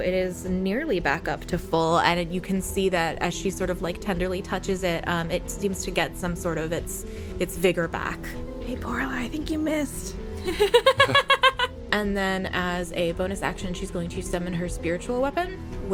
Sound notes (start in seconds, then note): 10.4 laughter